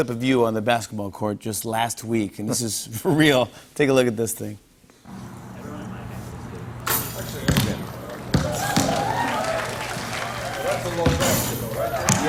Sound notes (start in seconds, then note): 8.0 cheers and applause